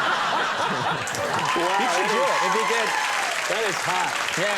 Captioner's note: crowd cheering; crowd laughing